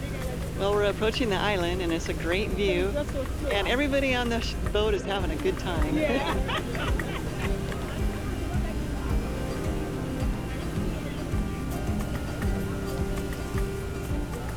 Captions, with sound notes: Well, we're approaching the island and it's a great view. And everybody on the boat is having a good time. [laughing] [piano music]